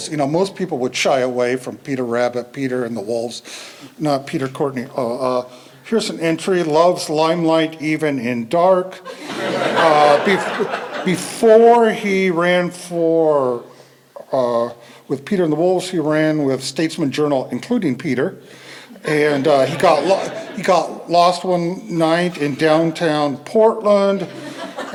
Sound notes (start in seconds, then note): 9.0 laughter